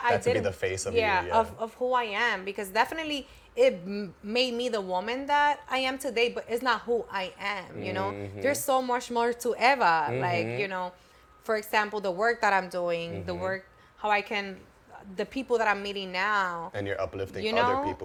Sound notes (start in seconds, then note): none